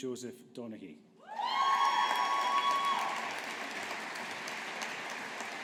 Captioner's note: audience applauding